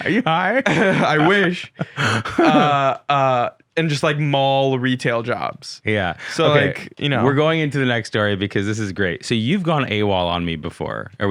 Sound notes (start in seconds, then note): 0.0 laughing